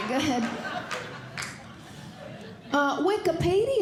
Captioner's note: audience Laughing